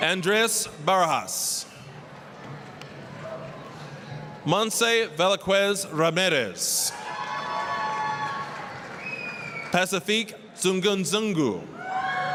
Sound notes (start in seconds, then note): 2.4 applause; 6.8 applause, cheering